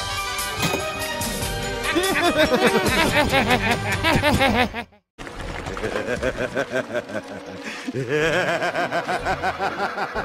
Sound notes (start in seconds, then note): 1.8 laughing; 5.9 Ella laughs at Ava as she is fills up the pet water bowl